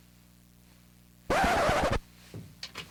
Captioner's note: record scratch